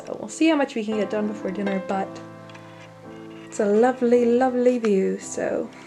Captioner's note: in a bad British accent